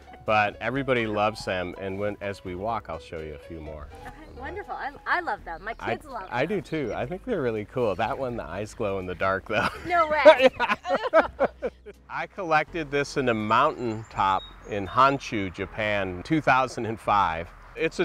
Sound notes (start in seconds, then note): 11.4 both laughing